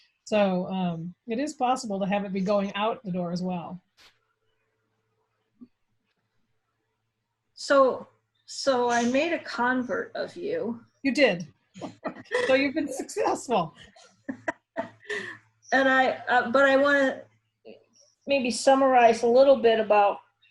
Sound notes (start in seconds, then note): 11.8 laughs